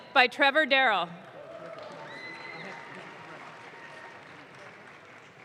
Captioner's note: audience claps